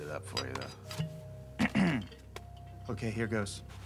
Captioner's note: clearing throat